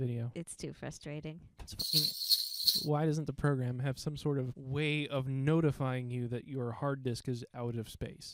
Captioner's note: sleigh bells